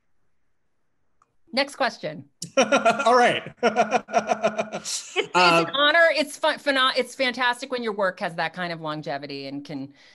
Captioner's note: laughs